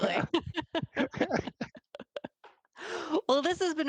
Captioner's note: all laughing